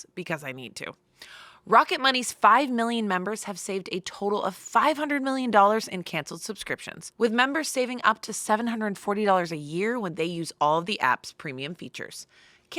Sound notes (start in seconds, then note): none